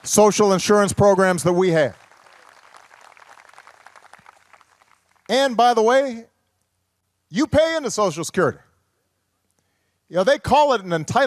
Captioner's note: applause